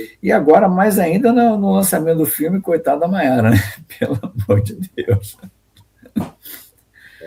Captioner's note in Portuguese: risadas